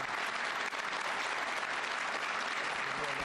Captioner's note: applause